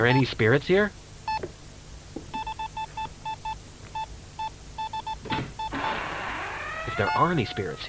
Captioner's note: Bruce searches the room's nearby closet as the EMF meter beeps fluctuate